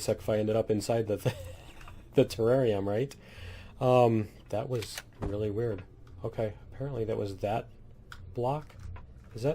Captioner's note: laughs